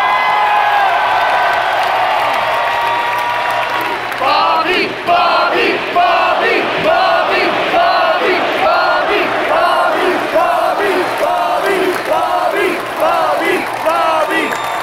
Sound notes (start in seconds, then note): 4.1 crowd chants "Bobby, Bobby, Bobby"